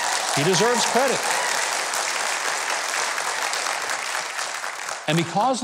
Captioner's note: audience cheers